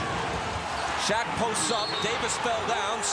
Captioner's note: whistle blows